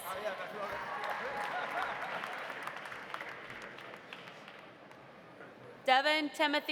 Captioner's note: audience applauding; audience cheering